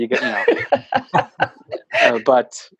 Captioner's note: laughs